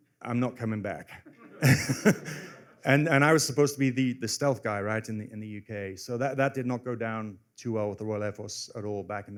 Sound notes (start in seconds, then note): 1.2 laughter